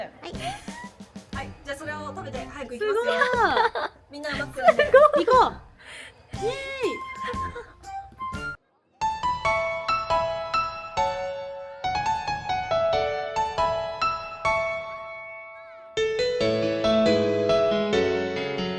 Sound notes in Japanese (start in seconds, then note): 3.0 笑い